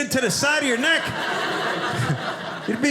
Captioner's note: audience laughing